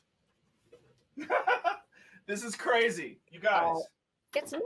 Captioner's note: laughs